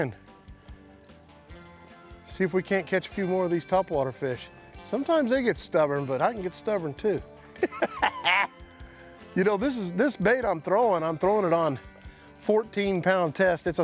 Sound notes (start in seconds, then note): 7.5 laughs